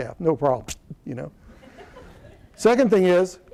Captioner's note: laughter